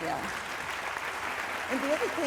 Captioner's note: applause